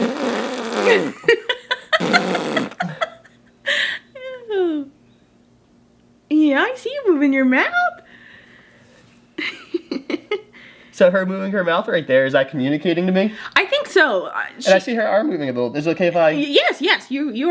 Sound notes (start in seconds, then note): 0.0 blows raspberries